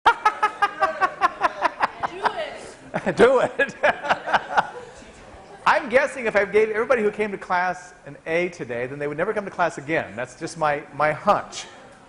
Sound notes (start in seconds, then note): 0.1 laughing